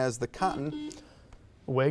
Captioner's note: buzzer beeps